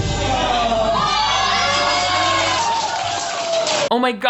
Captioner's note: cheerful music; contestants cheering